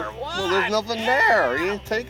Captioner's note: voiceover